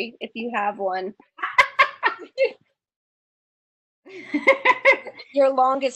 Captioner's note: laughs